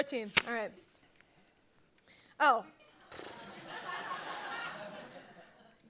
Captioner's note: laughter